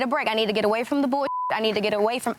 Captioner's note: beep